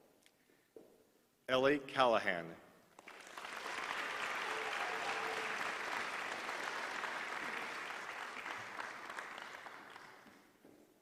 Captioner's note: applause